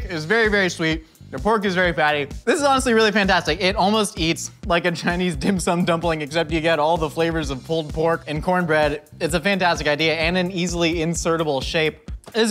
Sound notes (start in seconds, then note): none